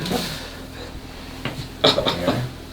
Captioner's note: deep breathing